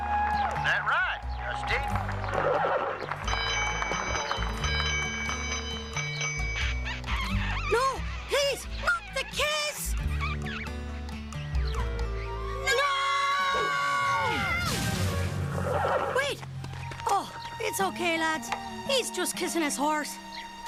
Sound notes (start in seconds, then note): 0.0 people cheering; 2.4 horse whinnies; 3.2 school bell rings; 6.0 sound of kissing; 8.8 kissing continues; 15.4 horse whinnies